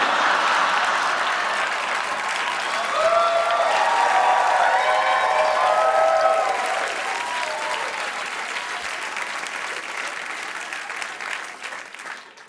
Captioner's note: cheers and applause